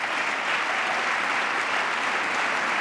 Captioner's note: applause